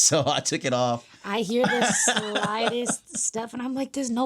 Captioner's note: laughing